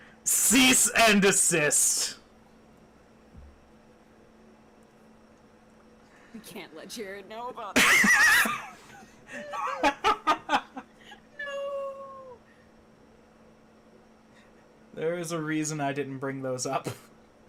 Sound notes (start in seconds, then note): 3.2 intense silence; 9.1 wheezes hard enough to clip the mic